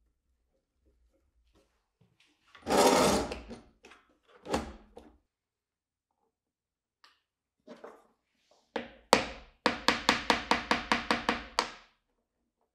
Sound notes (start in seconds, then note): 2.6 clamp grinds; 9.7 hammer taps